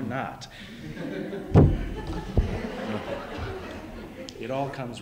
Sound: laughter

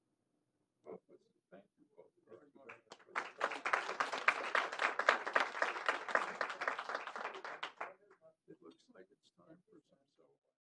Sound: applause

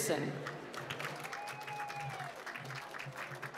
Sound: applause

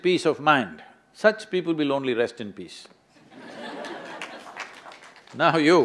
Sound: laughter/Applause; laughs

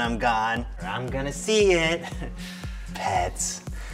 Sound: laughs

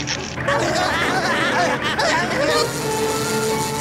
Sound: laughing

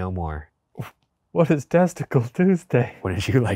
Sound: laughing

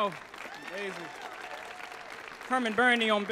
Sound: audience applauds

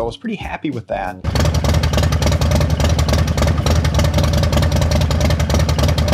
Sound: motorcycle engine roaring

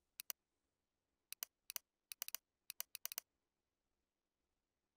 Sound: rapid computer mouse clicking

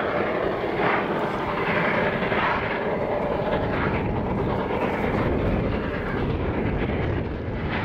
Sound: sounds of rotary plowing

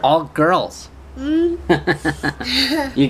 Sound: laughs

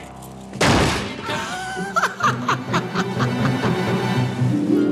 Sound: laughing

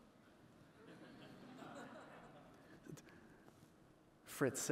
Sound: audience laughing

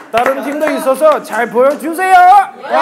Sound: laughing

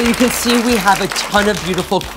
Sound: applause

